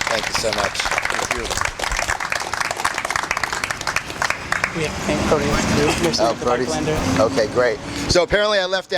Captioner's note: applause